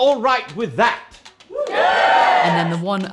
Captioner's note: audience cheers